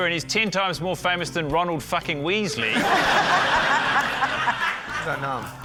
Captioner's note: laughter